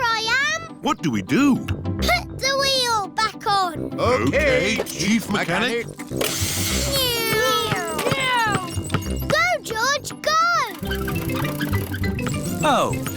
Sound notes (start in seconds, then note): 6.1 whirring